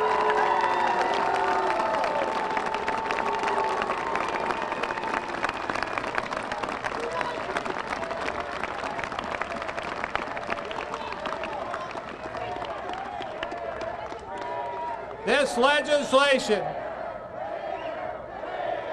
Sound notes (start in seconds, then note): 4.7 applause; 5.8 cheers and boos; 10.8 chanting "traitor"; 12.8 chanting "than you"